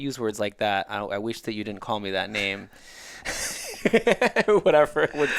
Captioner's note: laughing